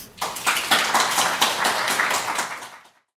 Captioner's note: audience applauding